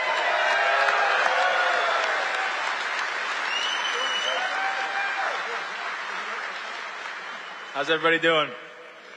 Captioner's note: applause